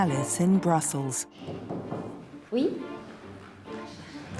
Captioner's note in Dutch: knock, knock